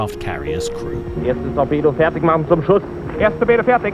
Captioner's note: German spoken audio